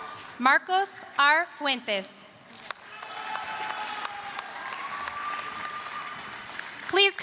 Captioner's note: applause, cheering; applause, cheering